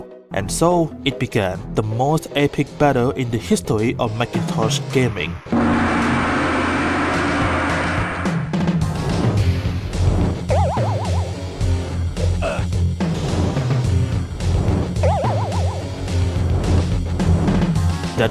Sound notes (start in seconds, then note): 5.5 gong sfx